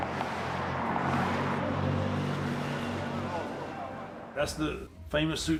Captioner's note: engines rumbling